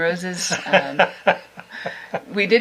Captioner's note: laughs